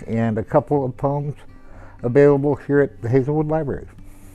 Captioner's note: none